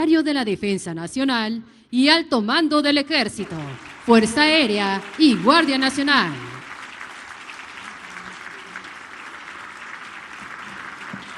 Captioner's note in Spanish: aplausos